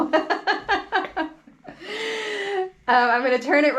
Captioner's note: chuckles